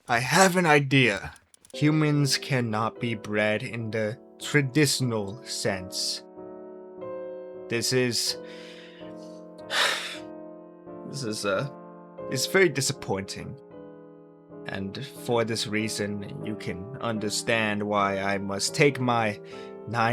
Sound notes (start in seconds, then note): 9.7 sigh